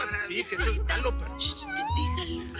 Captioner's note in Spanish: Hablan al unísono